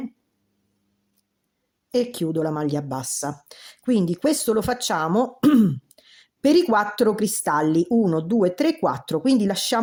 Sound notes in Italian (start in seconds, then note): 5.4 schiarire la voce